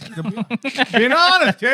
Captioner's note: laughing